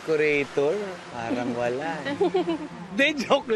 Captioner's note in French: chuckles